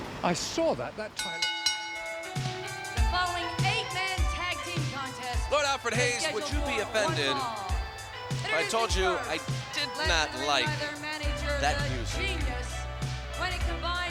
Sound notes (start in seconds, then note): 2.2 bell rings; 11.8 upbeat synth music plays